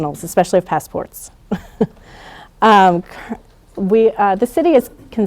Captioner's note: laughing